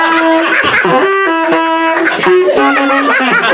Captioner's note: laughter